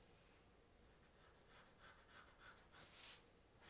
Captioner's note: pencil scratching